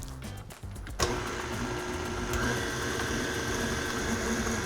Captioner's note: mixer whirring